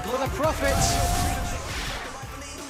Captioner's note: crowd cheering